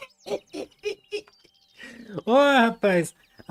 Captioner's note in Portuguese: risadas